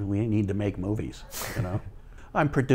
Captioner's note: chuckles